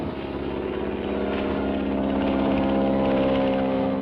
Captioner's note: engine hums